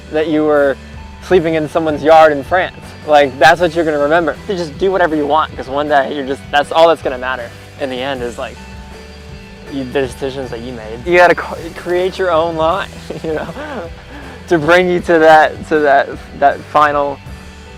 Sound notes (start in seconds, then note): 13.1 laughs